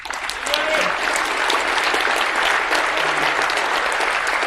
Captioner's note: attendees applauding